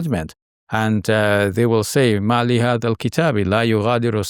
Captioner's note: speaks verse in Arabic